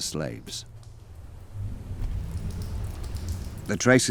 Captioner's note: water dripping